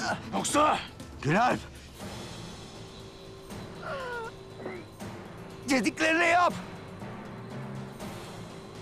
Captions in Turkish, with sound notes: -Yoksa… -Günalp! (İnleme sesi) Dediklerini yap.